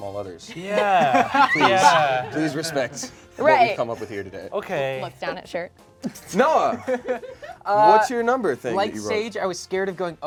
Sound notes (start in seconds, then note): 0.5 laughing; 6.1 laughing